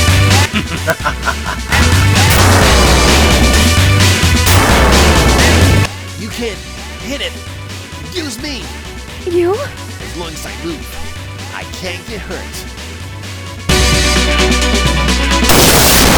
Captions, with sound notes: *Nega laughs* *S* YOU CAN... HIT IT. USE ME. *B* YOU? *S* AS LONG AS I MOVE I CAN'T GET HURT.